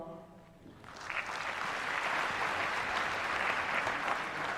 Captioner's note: applause